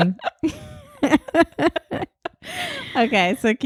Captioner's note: laughing